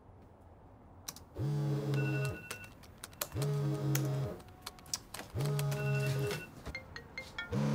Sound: phone buzzing, typing

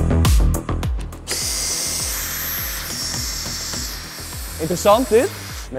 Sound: tool sounds

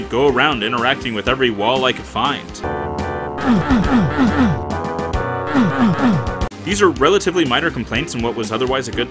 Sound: grunt grunt grunt grunt grunt grunt

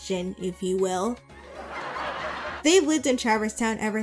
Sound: laugh track

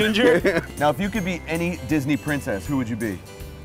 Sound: laughter

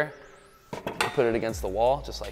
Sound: chair clanking

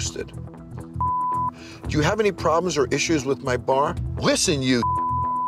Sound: beep; beep

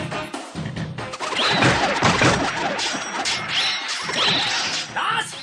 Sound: SFX: arrows firing, swords clashing

